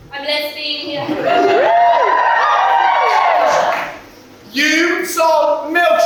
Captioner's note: cheers